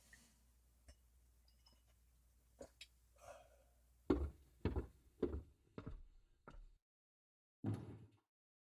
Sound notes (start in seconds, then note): 0.0 speaks; 1.2 creaking overhead